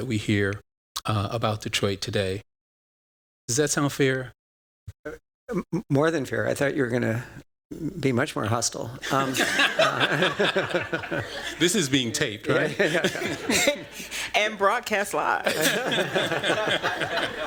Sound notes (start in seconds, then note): 9.0 laughter